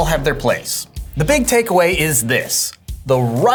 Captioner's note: screen whooshing